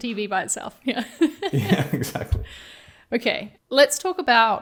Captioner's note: chuckling